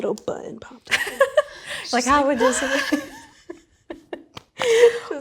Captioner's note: laughing